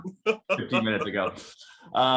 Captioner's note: speaker laughing